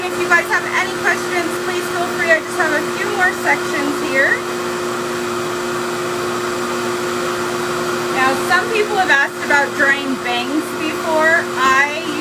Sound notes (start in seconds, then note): 4.6 hair dryer whirs continues